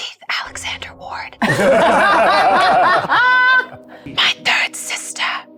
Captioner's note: all chuckling